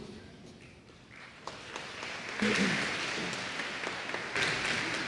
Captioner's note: applause